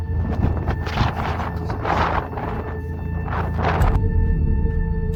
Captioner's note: blowing wind drowns out dads voice; intense music